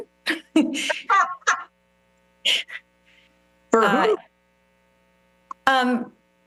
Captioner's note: laughs